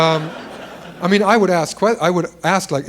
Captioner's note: laughter